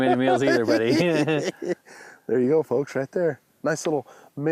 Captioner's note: laughs